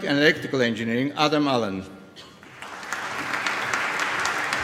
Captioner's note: applause